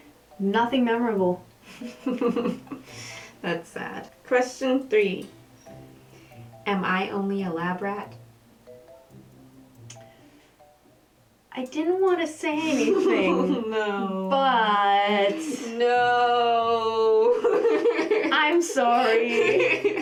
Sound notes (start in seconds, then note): 1.7 laugther; 12.6 laughing; 17.2 laughter